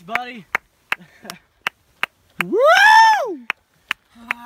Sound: laughter, whoops

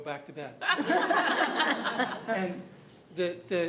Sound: laughter

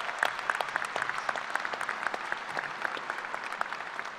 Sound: applause

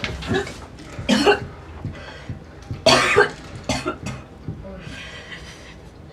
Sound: throwing up

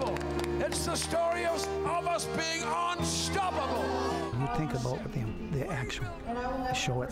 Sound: cheers

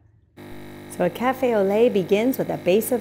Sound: machine whirring

